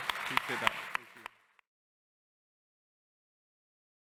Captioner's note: laughter and applause